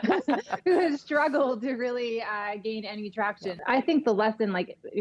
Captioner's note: laughter